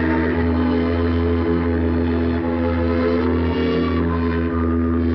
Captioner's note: ship horn blowing